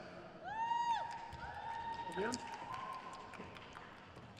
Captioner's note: crowd cheers